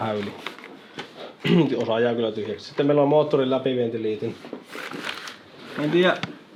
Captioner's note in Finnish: rykäisee